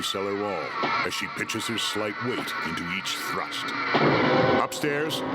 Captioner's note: eerie echoing; dramatic music